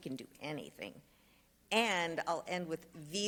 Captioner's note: speaks Spanish